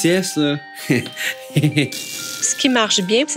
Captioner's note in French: rire